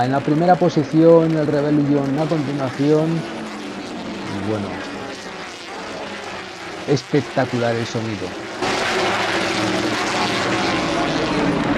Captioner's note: engines